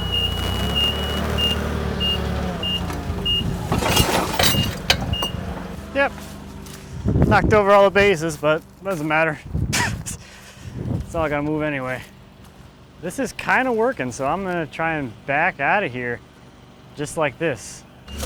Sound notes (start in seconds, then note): 4.3 log crashing; 9.7 laughing